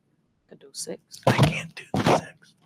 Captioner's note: whispers faintly